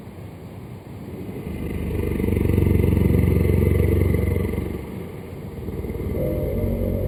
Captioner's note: creepy sound; suspenseful music